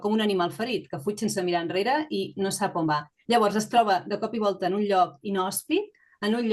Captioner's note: continues speaking in Catalan